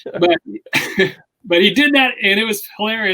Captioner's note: laughs